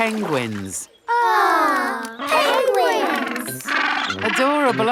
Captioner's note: penguins chatter